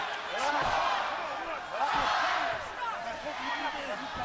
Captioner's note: crowd cheering